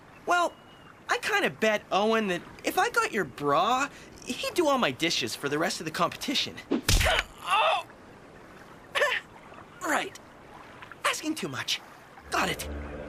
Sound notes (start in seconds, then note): 7.0 Cody Grunting in Pain